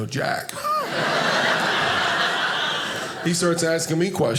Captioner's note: audience laughing